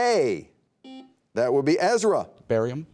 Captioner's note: buzzer beeping